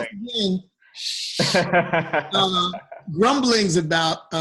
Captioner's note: laughter